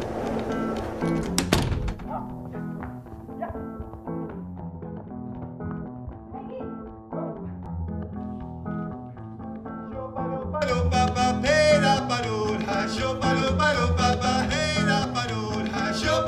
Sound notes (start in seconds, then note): 1.1 door slams; 6.2 distant shouting; 10.0 vocalizing